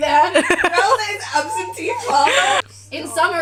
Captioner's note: laughter